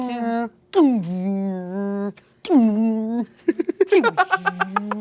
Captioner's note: making robotic sounds; laughs